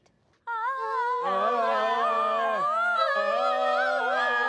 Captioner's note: everyone vocalizes